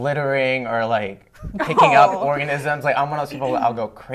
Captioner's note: laughter